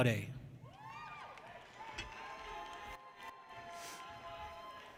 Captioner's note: people cheer